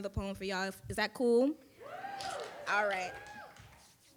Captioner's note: audience cheering